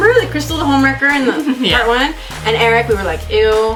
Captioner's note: laughs